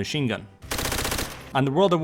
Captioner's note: Type 100 bullets being fired